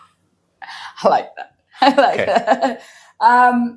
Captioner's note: laughs